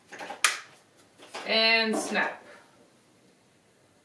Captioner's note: handles clicks